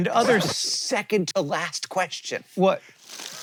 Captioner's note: record scratch